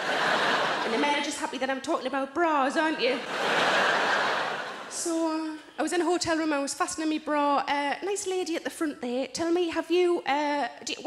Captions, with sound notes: (audience laughing) And the men just happy that I'm talking about bras, aren't you? (audience laughing) So, I was in a hotel room, I was fastening me bra, a nice lady at the front there. Tell me have you,